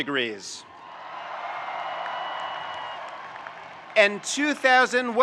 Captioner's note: audience cheering and applauding